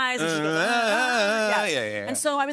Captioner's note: both vocalize